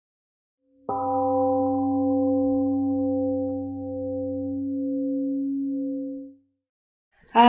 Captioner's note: temple gong rings and fades